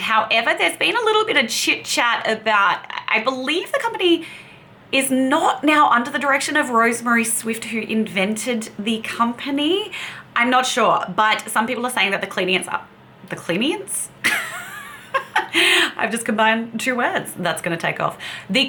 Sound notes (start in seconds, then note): 14.3 laughs